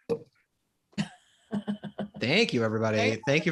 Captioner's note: Fred chuckles